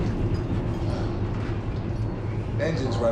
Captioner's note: Jackson sighs; chains clinking